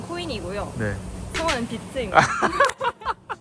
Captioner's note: laughter